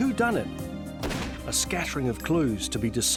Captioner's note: gunfire bangs